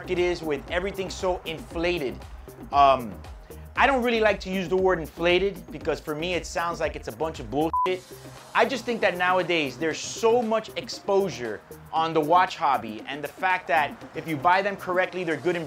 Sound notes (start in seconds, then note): 7.6 beep